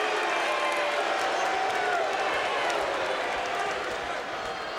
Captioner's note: audience cheering